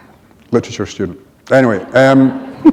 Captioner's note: laughter